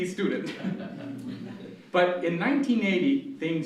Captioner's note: laughter